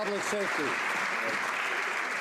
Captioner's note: some Applause